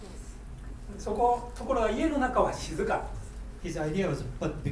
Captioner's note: speaking in foreign language